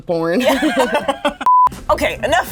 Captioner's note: laughing; beep